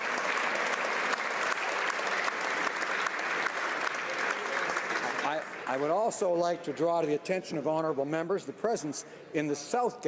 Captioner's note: applause